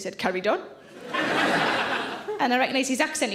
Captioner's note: audience laughs